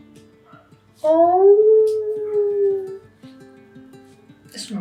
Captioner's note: howl